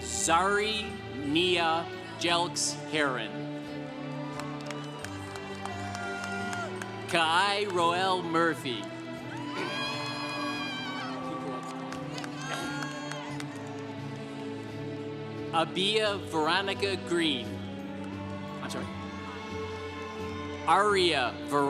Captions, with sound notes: Zari Niajelks Heron. (congregation applauding) Kai Roelle Murphy. (congregation cheering) Abia Veronica Green. I'm sorry, Aria Veronica Green.